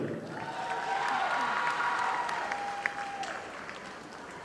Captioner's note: audience applauding